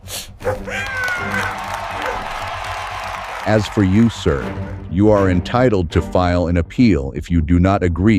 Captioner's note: cheering